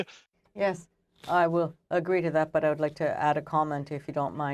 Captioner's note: speaking French